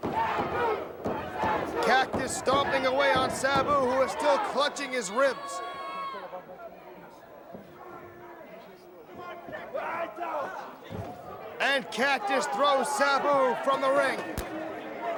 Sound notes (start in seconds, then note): 5.9 crowd chatter